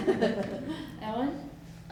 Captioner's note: laughter